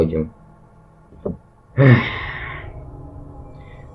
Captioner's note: sigh